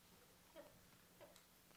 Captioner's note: none